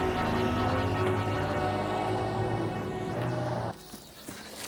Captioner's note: car engine revving